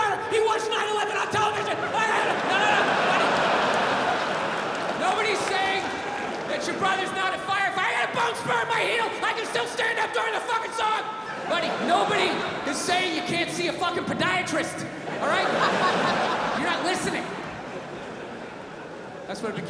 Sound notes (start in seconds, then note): 2.1 yells; 3.4 crowd laughs